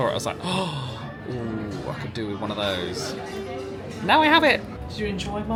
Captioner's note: gasps